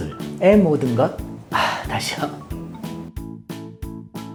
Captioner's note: sigh